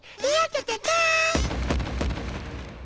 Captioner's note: knock knock